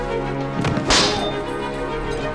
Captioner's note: metallic thwack